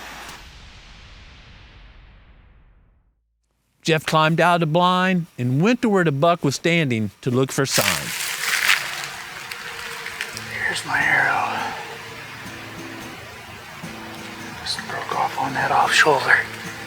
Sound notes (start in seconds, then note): 9.2 whispering